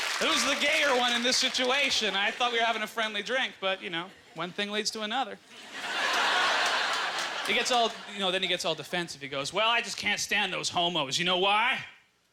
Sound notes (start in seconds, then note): 0.0 cheers and applause; 7.2 audience laughter